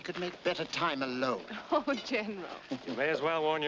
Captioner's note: laughs